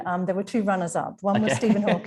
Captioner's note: laughing